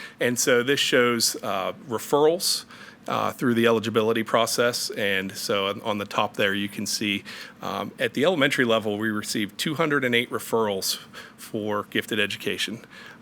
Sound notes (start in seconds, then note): none